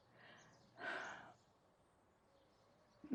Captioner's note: exhales